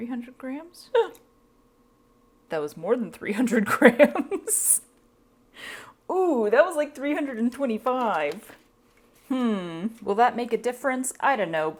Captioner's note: gasp